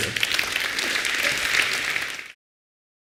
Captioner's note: appaulse